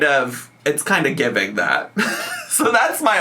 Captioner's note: laughs